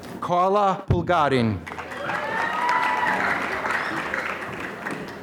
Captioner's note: applause